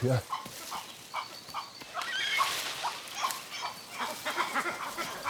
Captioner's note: monkeys chitter